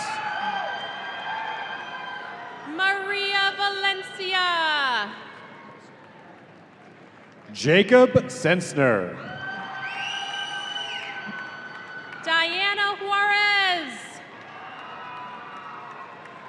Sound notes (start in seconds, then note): 0.0 audience cheering; 8.8 audience cheering